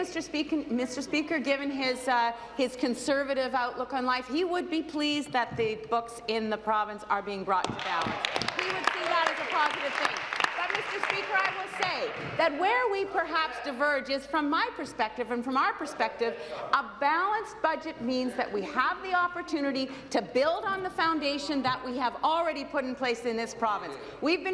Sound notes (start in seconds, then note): 12.8 applause